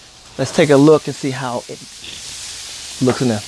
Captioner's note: sizzling